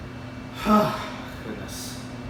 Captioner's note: sighs